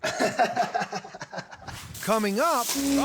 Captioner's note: laughs